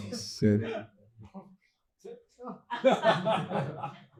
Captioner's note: audience chuckles